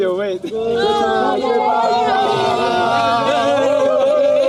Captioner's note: cheering